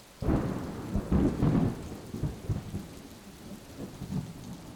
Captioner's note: thunder sound